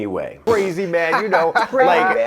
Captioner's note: group chattering